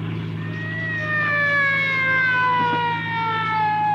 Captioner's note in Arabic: صافرة الإنذار تدوي